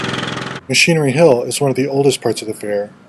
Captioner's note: engine running